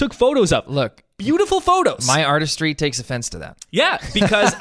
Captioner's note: laughs